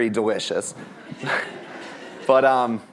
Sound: laughter

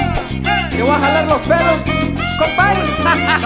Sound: laugh

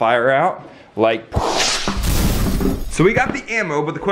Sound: whooshing and crashing

